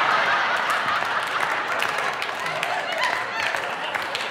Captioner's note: audience laughing